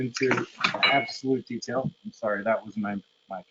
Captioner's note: metal clanging